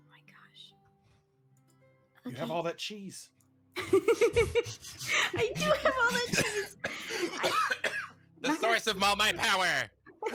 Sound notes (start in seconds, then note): 3.8 laughs